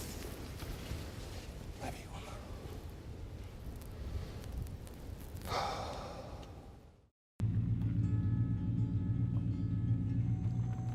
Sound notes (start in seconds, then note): 0.0 rustling; 5.5 exasperated sighing